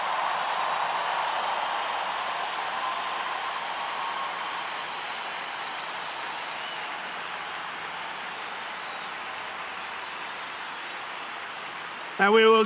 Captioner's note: applause